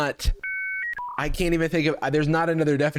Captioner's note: dial tone